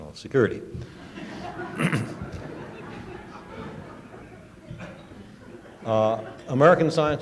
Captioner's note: laughter